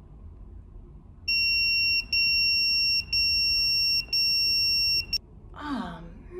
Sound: pager beeping

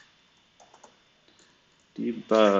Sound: computer keyboard clicking

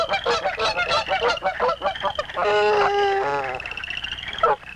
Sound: geese honking loudly

